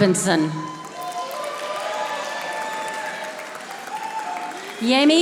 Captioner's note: audience applauding